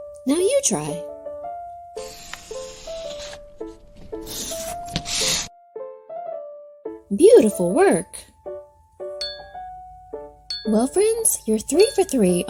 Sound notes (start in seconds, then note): 2.2 pencil scratching; 9.2 objects dinging